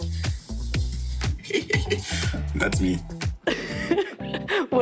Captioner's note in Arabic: يضحك; تضحك